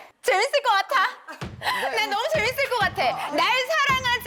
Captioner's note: in an overly excited voice